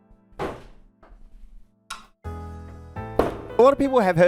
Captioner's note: sounds of a gate closing